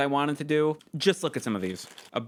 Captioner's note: rummaging noises